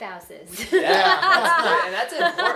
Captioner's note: laughing